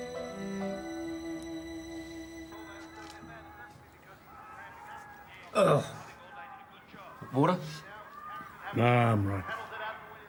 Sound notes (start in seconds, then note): 2.4 tv plays faintly; 5.2 exclaims